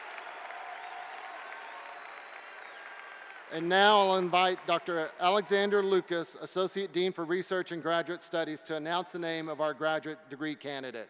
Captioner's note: cheers and applause